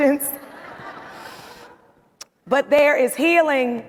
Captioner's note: audience laughing